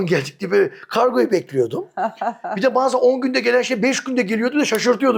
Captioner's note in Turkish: kahkaha